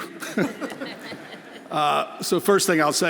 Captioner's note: everyone laughing